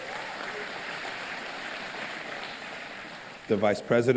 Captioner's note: applause